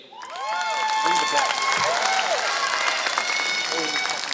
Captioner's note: applause